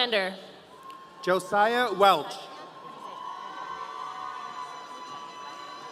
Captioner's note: audience cheering